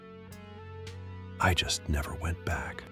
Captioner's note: whispers